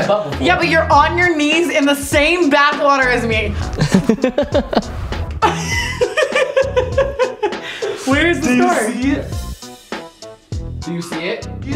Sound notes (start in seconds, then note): 3.6 laughs; 5.4 Tana laughs